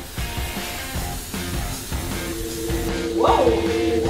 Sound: water splashing; action music

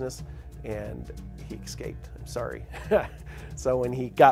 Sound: laughing

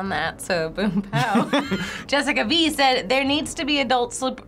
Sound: both laugh

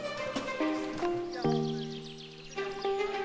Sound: birds chirping

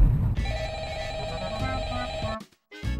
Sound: brrrrrrrrrrrrrrrrring

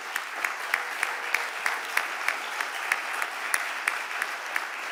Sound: audience applauding

